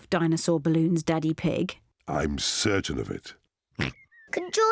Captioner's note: oinks